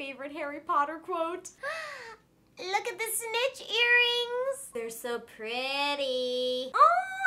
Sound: gasp

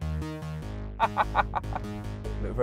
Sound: laughter

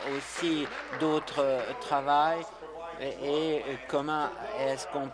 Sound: applause

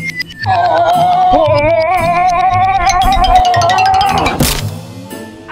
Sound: Grinch shouting

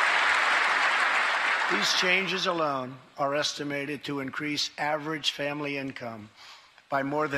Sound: applause

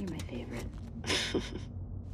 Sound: chuckle

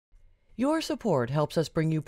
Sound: voiceover

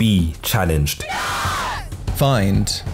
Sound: cheering

